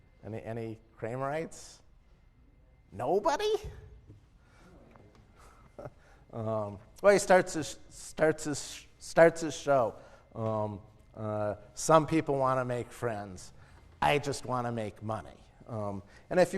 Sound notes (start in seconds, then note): 5.5 laugh